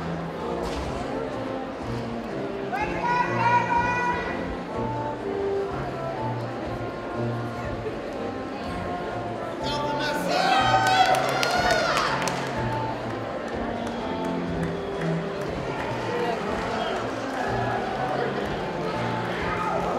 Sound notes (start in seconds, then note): 1.3 applause and music